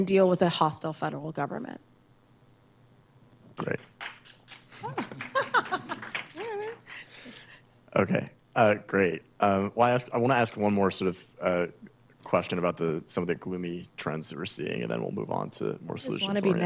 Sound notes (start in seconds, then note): 3.6 applause; 4.8 laughs